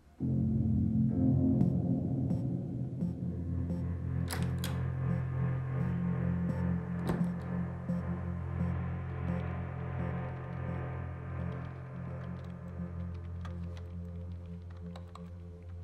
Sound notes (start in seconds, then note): 4.2 door opens, closes